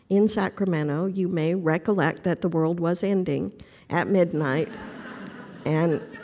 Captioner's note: laughter